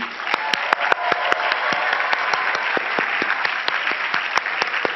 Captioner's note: cheering and clapping